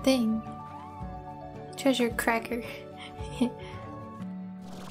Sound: giggling

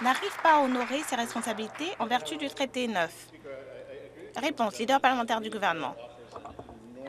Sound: some Applause

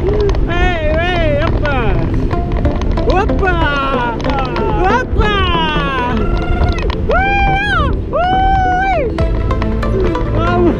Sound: cheering

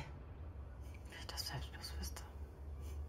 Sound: whispers

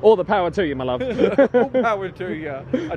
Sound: laughing; chuckles

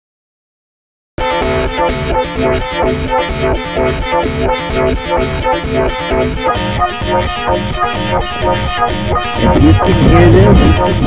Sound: spooky echo

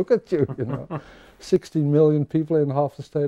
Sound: men laughing

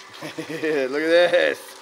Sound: chuckles

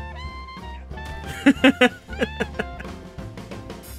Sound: laughter

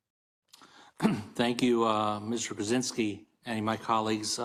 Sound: cough

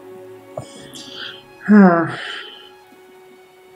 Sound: sighing

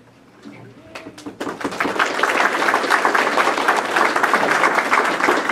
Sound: participants clapping

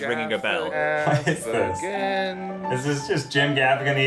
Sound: laughs

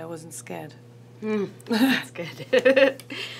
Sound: both laugh

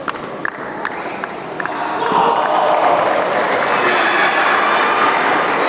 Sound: applause

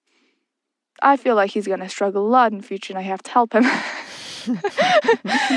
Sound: both laugh

